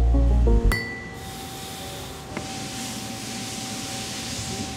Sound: machines running

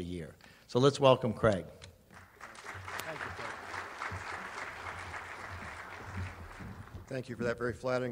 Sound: audience applauds

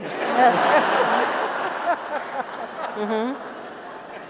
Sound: laughter

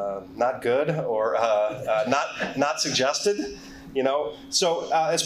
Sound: chuckles

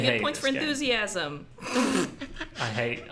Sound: laughs

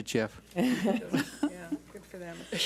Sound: board laughs

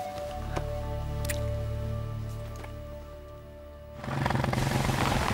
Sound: kissing; motorcycle engine humming

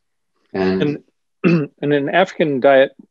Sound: clears throat

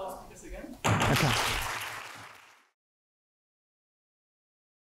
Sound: applause

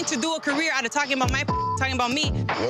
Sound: beep

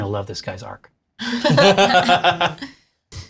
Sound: laughter

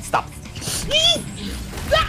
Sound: inhale

